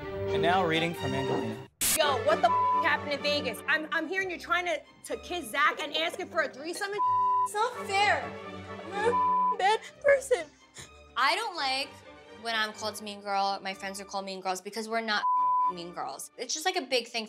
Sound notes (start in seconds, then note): 2.5 beep; 7.0 beep; 8.9 sobbing; 15.2 beep